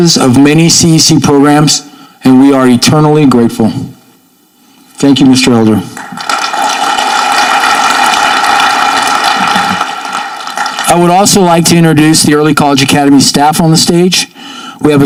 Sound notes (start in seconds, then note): 5.9 audience clapping